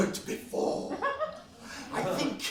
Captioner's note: laughs